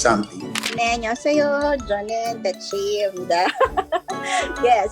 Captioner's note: speaking in Korean